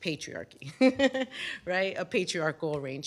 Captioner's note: laughter